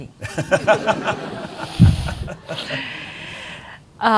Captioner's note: audience laughing